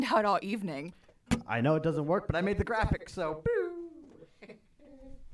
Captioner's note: makes booping noise